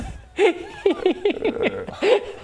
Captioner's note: gremlin laugh